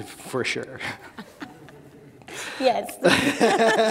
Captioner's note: laughing